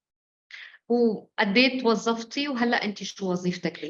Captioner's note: speaking arabic